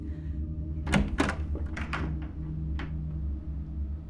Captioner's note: door clicks